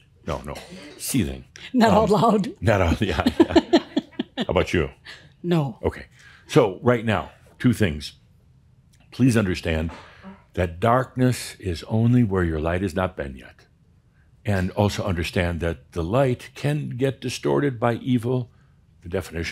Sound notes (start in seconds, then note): 2.8 they chuckle